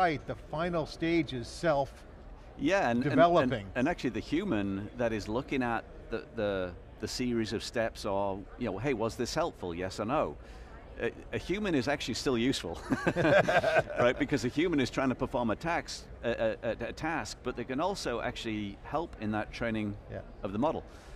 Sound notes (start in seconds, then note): 12.9 laughing